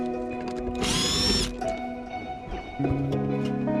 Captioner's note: drill sounds